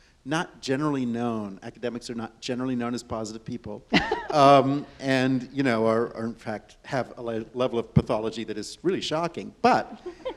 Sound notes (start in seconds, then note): 3.9 laughs; 9.9 audience and panelists chuckle